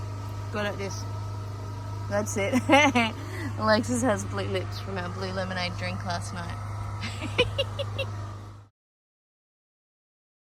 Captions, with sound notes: Go like this. That's it. Hehe! Alexis has blue lips from our blue lemonade drink last night. [giggles]